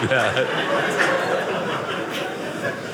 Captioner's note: audience laughing